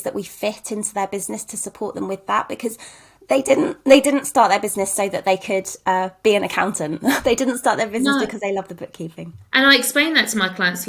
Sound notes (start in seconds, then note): 7.8 chuckles